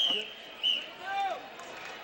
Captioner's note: whistle blows